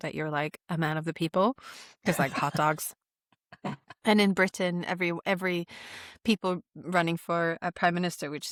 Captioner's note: laughter